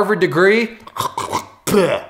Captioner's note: gagging